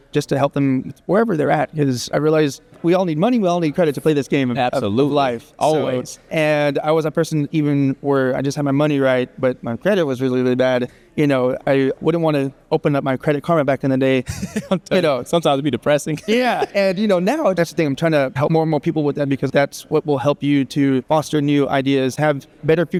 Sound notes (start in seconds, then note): 16.2 haha